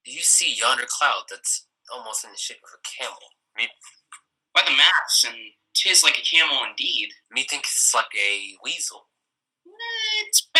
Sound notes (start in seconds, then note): none